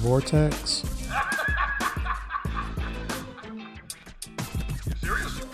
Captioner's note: J Jonah Jameson meme laugh